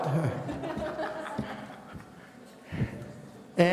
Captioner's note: laughing